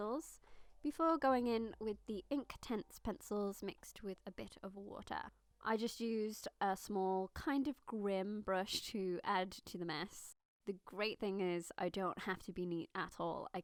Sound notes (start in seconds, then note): none